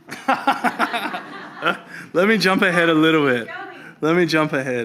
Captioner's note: laughs